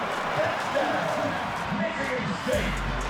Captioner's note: crowd cheering; upbeat music